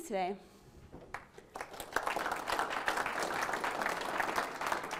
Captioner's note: audience applauding